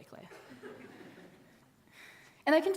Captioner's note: audience laughing